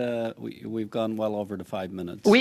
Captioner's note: speaking FRENCH